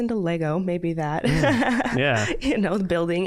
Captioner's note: laughing